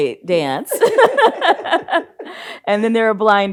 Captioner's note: both laughs